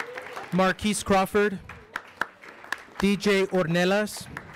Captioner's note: audience applauds